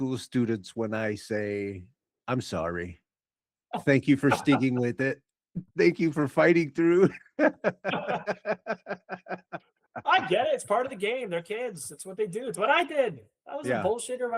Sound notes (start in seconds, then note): 6.8 laughing